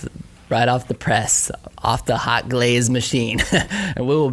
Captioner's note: laughing